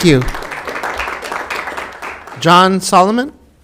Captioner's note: applause